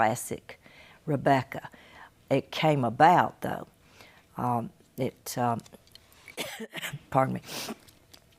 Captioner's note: coughs and sniffs